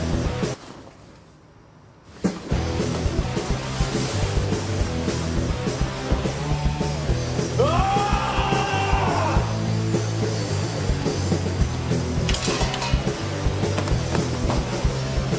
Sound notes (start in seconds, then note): 7.6 enraged screaming